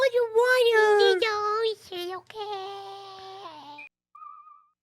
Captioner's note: kitty voice